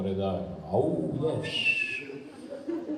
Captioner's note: cheers